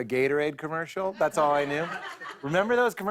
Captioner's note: laughter